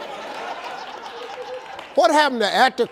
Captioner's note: audience laughs